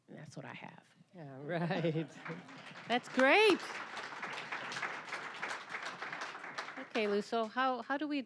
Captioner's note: applause